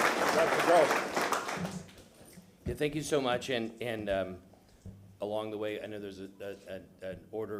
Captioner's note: applause